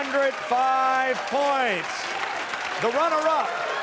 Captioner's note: cheers and applause